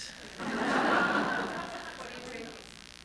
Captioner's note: laughter